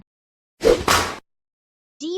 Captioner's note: smack